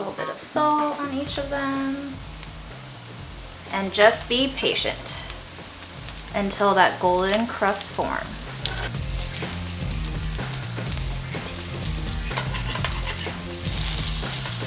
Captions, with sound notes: Gonna put a little bit of salt on each of them. And just be patient until that golden crust forms. (sizzling sound)